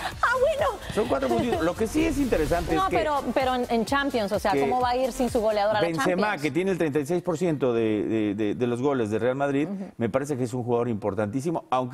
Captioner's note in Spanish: risas